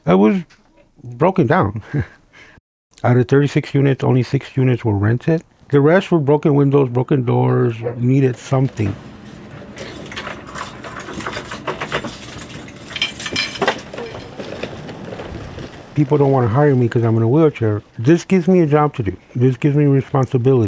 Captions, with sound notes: It was broken down. [Laughs] Out of 36 units, only six units were rented. The rest were broken windows, broken doors, needed something. [Taking keys out of door] [Wheelchair rolling] People don't want to hire me because I'm in a wheelchair. This gives me a job to do. This gives me responsibility.